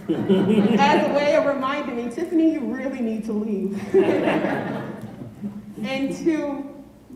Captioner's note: laughter